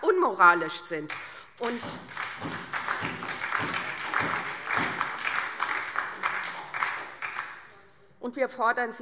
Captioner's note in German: Beifall SPD und DIE LINKE